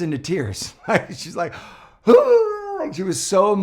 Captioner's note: cries